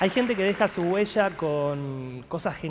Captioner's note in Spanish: Fin aplausos